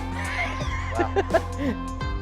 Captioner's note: laughing